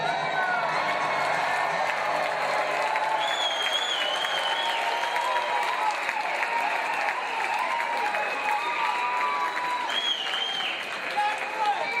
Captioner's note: cheers and applause